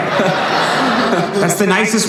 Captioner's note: laughing